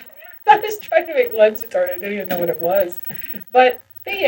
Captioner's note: laughs